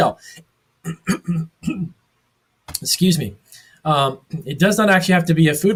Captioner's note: clears throat